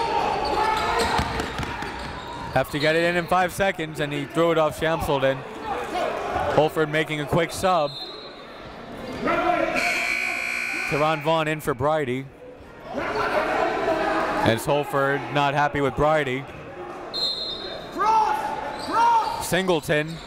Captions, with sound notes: Have to get it in in five seconds and he threw it off Shamsaldeen. Holford making a quick sub. (buzzer goes off) Terrhon Vaughn in for Brydie. And it's Holford not happy with Brydie. (crowd talking) (coaches yelling)